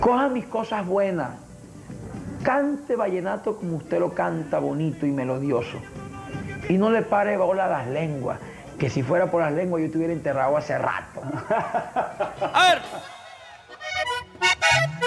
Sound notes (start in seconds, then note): 11.2 laughter